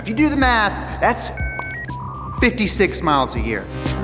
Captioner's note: modem screeches